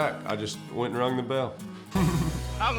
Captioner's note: chuckles